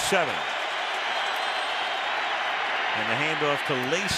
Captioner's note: crowd roars